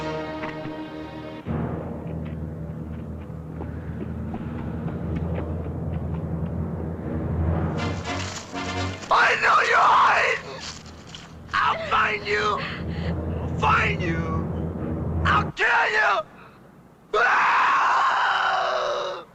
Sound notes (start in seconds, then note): 0.0 tense music; 9.0 yelling; 17.1 scream